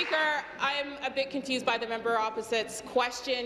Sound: applause

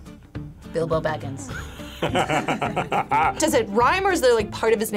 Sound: laughs; both laugh

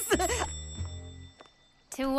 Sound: bell ringing

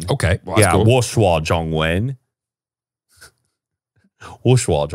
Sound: speaking Mandarin

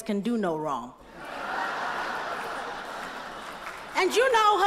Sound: laughter

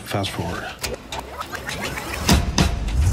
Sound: tape running

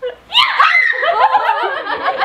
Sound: laughing; screaming; everyone laughing

